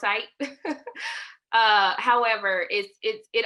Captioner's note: laughter